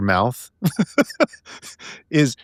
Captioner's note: laughing